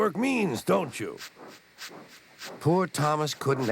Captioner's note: chugging